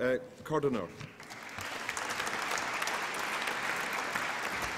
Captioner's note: applause